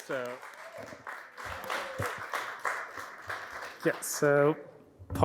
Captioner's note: audience clapping